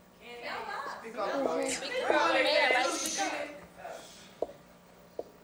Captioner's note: audience shouting